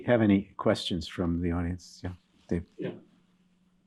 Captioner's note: off mic